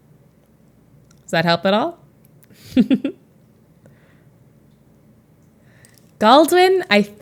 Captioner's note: Emma chuckles